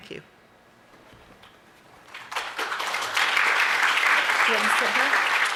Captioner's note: applause